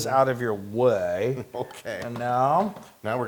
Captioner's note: laugh